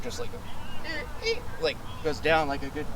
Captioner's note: imitates truck squeaking